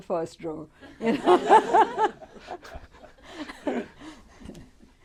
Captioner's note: laughter